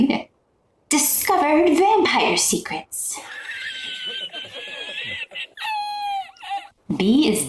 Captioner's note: meme wheeze laugh